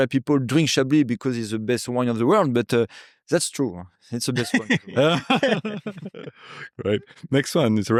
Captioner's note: laughing